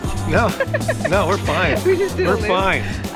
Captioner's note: Nicole laughing